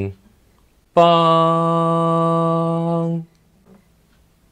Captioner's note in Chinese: 哼出猜想的第三音 音高